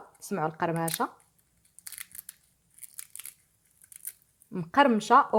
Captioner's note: crunchy sound